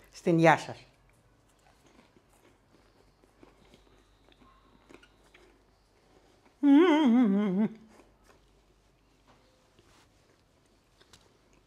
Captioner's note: silence